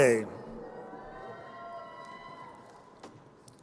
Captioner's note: crowd cheering